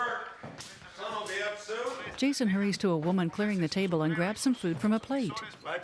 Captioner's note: TV: Man Speaking Spanish